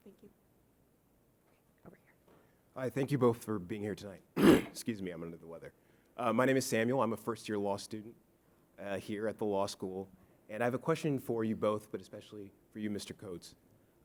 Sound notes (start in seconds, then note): 4.4 clears throat